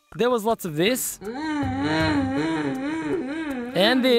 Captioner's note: wailing